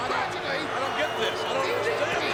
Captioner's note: audience booing